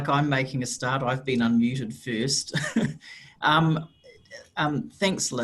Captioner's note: chuckles